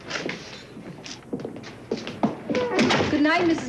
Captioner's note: door latch clicks